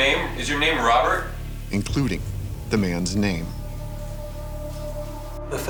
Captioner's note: voiceover